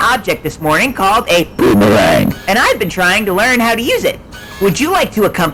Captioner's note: boomerang